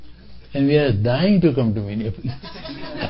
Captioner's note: laughter